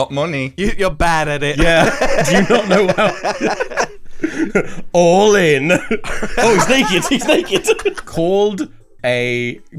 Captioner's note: all laugh; laughs